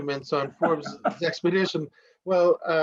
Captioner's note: laughter